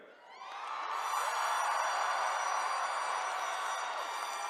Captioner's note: attendees cheering